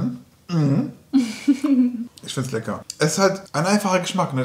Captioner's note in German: lacht